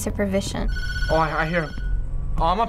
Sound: phone ringing

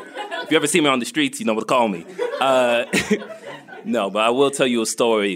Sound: laughter

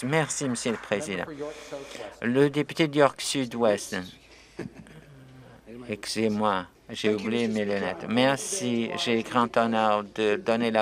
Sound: applause

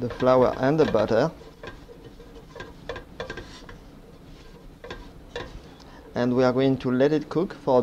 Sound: mixing sounds

